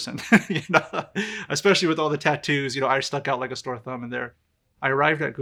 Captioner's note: laughs